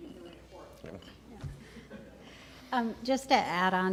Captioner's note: chuckles